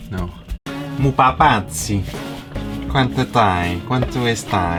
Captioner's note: attempting to speak italian